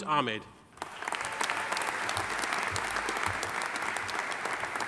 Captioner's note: audience applauding